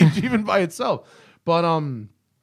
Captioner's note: laughter